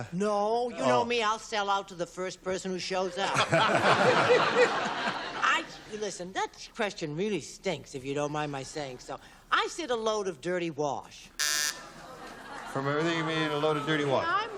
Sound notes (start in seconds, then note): 3.2 laughter; 11.4 buzzer